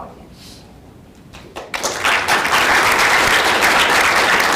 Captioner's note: audience applauding